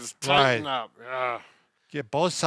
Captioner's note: groans